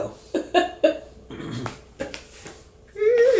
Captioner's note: chuckling